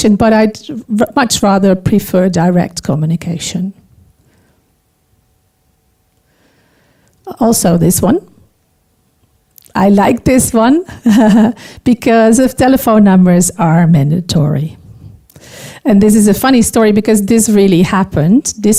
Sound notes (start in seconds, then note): 10.9 chuckling